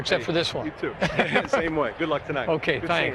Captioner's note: laughs